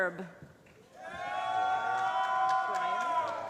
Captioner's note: applause